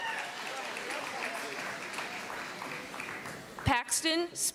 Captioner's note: applause